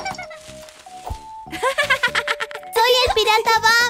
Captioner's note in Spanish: Risas